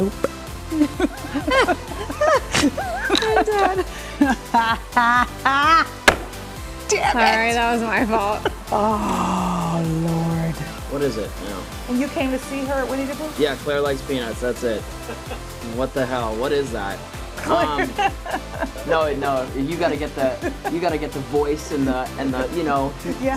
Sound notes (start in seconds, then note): 2.3 laughter; 4.6 laughing